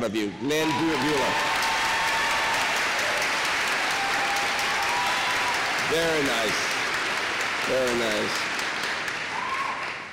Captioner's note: applause